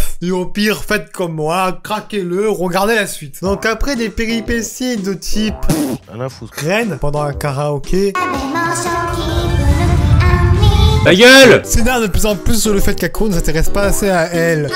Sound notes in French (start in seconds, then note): 5.6 pff; 8.1 chante; 9.4 tremblement de terre